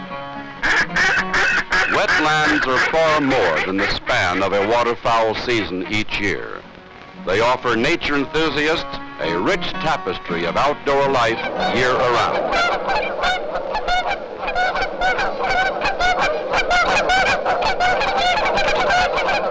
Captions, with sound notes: Wetlands are far more than the span of a water fowl season each year. They offer nature enthusiasts a rich tapestry of outdoor life year round. (geese honking)